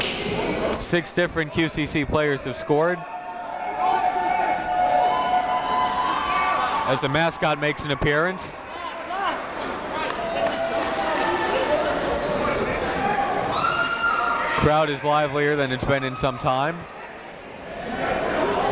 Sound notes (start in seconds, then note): 3.0 crowd cheering; 9.3 crowd talking